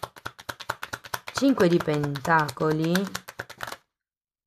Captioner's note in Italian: Applauso